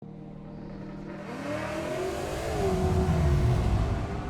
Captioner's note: car engine roaring